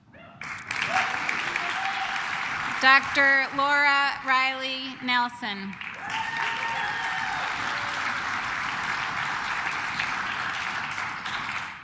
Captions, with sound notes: Dr. Laura Riley Nelson. (claps)